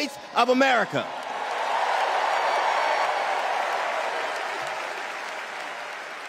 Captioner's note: cheers and applause